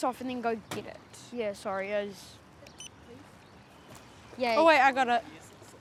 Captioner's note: controller beeps